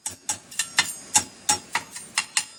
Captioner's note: mixer whirring